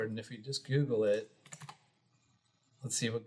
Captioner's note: keyboard clicking